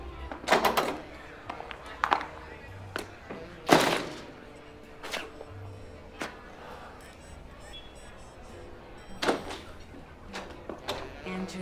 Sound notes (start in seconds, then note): 0.5 door rattling; 3.6 door slams shut; 9.4 door rattling